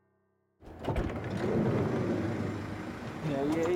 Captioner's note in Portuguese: porta corre